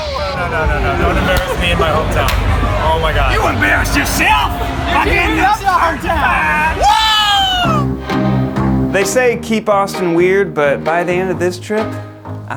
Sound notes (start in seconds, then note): 0.0 yells; 6.8 yells; 7.9 dramatic music